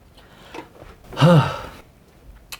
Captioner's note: sigh